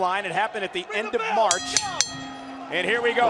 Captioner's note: bell ringing